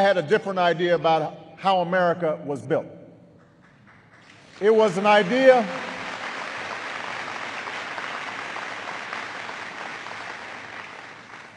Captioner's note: applause